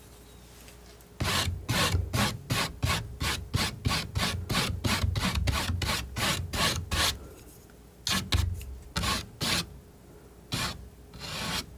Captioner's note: scratching